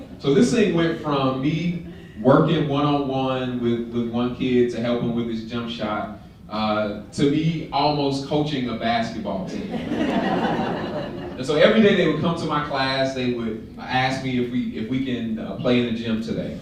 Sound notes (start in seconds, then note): 9.5 laughter